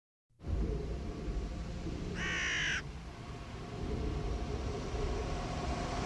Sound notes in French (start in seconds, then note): 2.1 croassement d'oiseau; 3.7 vent qui souffle